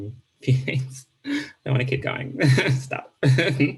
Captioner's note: laughs